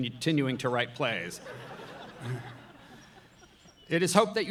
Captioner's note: audience laughing